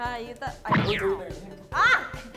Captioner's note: Boom!